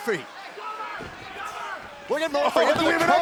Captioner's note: crowd chatter